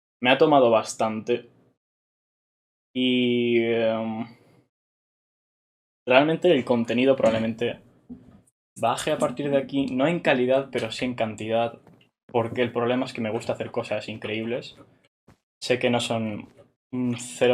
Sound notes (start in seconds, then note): none